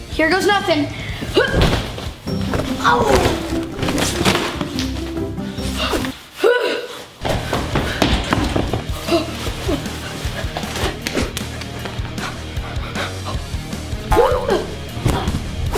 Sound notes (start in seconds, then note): 4.0 crashes; 9.8 energetic music